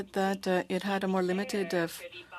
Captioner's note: speaking French